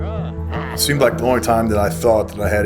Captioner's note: growls